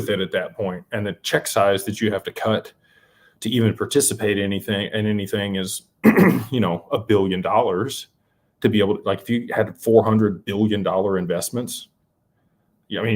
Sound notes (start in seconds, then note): 6.0 clears throat; 6.0 cough